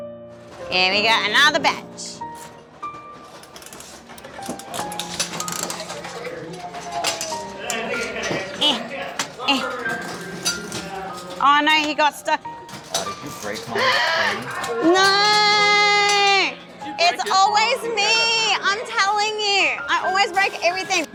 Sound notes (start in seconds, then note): 4.8 clicking; 8.6 straining